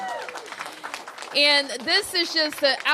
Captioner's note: cheers and applause